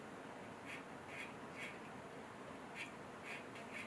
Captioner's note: pen scratching